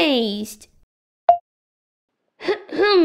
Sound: click!

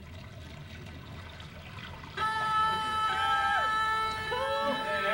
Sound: alarm buzzes

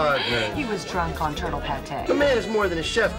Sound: in foreign language

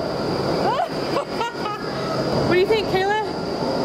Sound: laughing

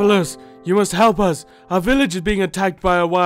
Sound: gasp

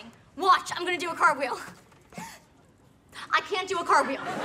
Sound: gasps

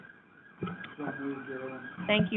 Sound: faint voice

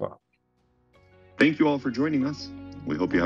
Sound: voiceover

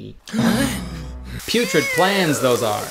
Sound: shocked gasping

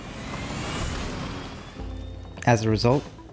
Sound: bike swooshes past

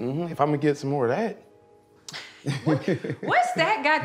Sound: both laugh

